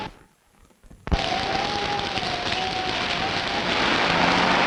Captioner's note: wind howling; rain pattering; thunder rumbling